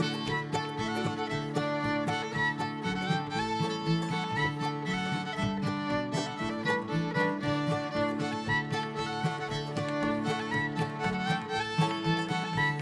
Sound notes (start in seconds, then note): 0.0 bright folk music; 5.7 shoes tapping rhythmically; 9.5 folk music continues